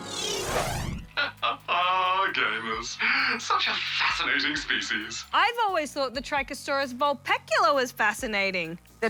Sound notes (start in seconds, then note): 1.1 chuckles